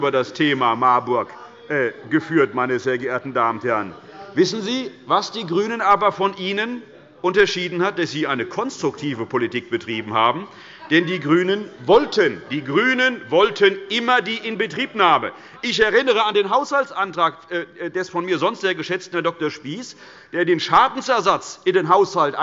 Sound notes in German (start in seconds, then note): 10.4 Lachen bei der LINKEN